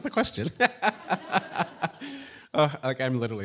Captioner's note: laughs